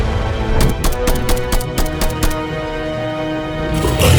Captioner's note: claw thuds; gun blasting; beast growls